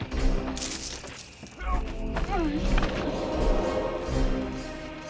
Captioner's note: man grunts